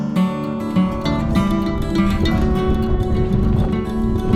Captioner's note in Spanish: Sonido del viento soplando